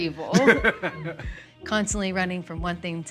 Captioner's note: Baratunde laughs